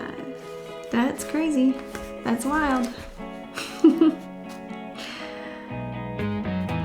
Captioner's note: chuckling